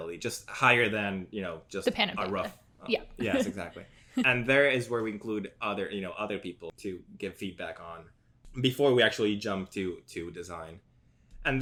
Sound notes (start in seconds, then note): 3.2 laughs